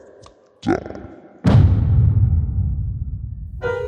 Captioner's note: echoed voice in slow motion; heavy thud